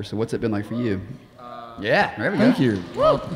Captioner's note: audience cheering